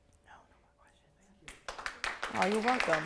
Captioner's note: applause